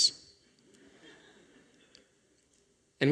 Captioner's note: laughter